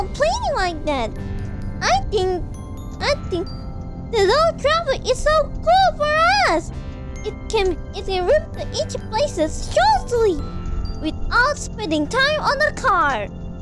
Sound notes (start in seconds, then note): none